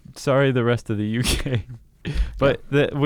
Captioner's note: laughs